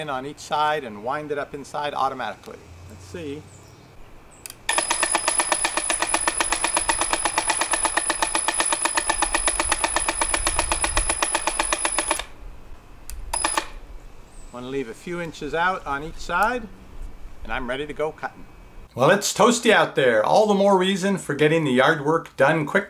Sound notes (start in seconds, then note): 4.7 mixed sounds of ringing and clanking